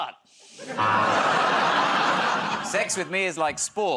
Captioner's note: laughter, buzzer